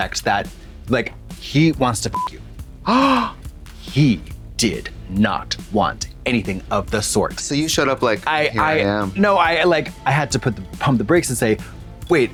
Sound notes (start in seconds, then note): 2.1 beep; 2.8 Trixie gasps